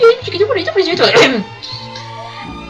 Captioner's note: coughs